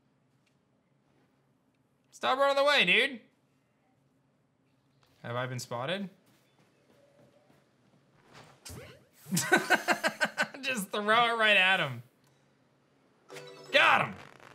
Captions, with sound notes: Stop running away, dude. Have I been spotted? (laughs) Just throw it right at him. Got him.